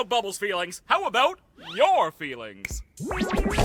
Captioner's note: snap!